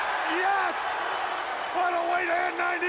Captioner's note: bell rings